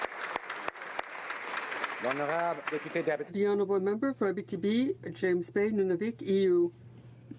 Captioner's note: applause